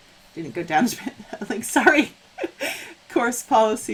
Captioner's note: laughing